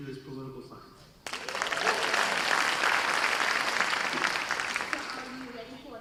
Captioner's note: audience applause